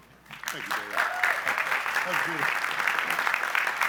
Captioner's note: applause